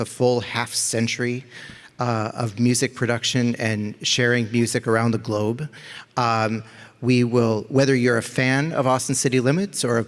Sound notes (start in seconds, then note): none